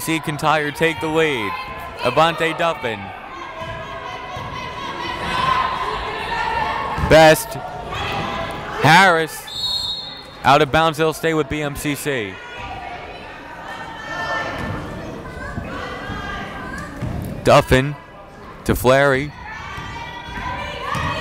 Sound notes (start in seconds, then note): 9.4 whistle blowing; 14.2 yelling